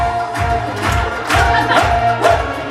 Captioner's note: clapping